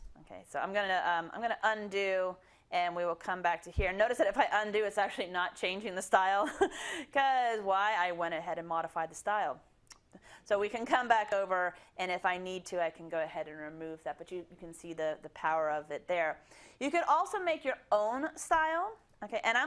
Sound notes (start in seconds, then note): 6.7 laugh